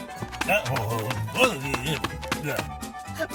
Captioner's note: grunts